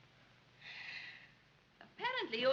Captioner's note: sighs